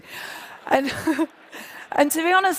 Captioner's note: laughter